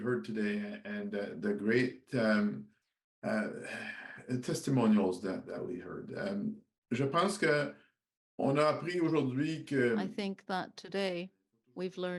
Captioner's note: speaking French